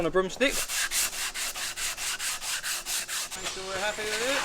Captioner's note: sandpaper scratching